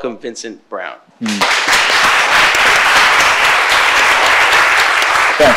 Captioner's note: audience applauds